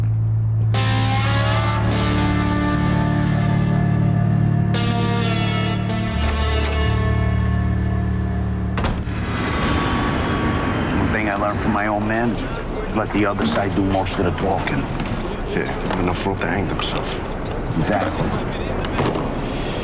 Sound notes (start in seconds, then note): 0.6 low moody music; 5.8 door clicking; 8.7 plane whooshing